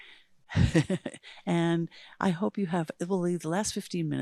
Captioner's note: chuckles